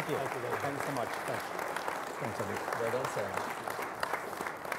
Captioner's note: applause